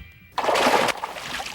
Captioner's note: splash